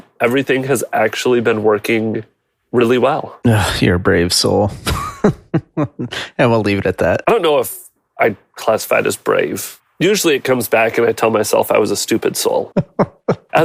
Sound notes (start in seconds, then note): 4.7 laughing